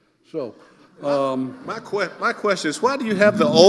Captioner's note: audience laughing